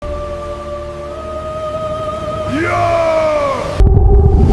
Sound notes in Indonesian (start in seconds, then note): 2.5 berteriak